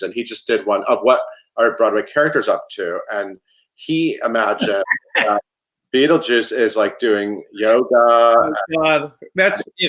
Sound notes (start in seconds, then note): 4.6 chuckles